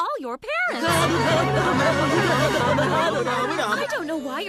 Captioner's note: students complaining